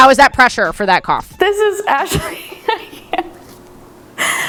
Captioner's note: laughs